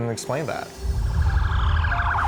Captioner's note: sirens whining